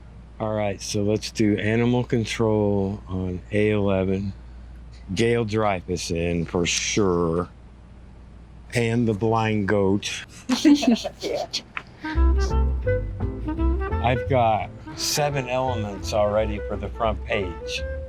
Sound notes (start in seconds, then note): 10.3 laughs